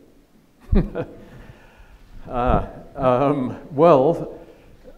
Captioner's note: chuckles